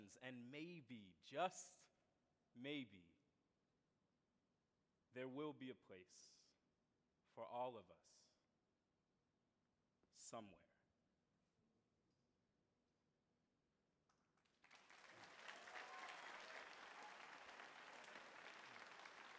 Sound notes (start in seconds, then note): 14.4 audience applauding